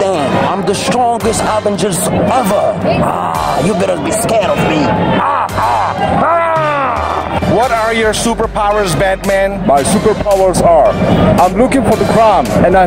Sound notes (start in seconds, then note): 5.1 roaring